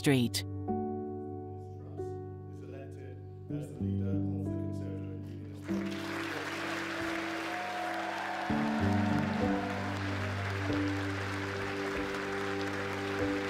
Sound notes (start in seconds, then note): 0.3 soft music; 5.6 audience applauding and cheering